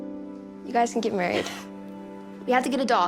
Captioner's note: Jackie laughs